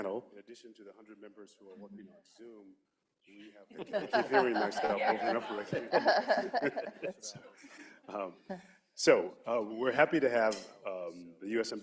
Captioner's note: laughter